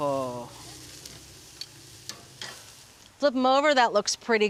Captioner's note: grill sizzling